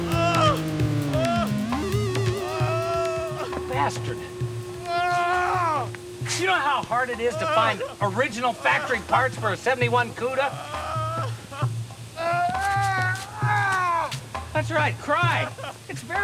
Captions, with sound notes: (man groaning) You bastard. (groaning continues) Do you know how hard it is to find original factory parts for a '71 'Cuda? (man crying) That's right, cry.